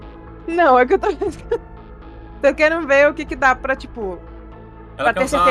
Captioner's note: laughs